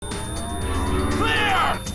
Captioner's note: charging noise